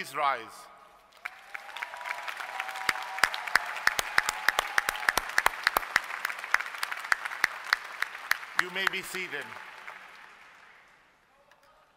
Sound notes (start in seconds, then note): 4.1 applause